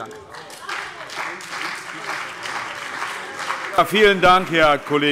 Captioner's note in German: Beifall CDU und BÜNDNIS 90/DIE GRÜNEN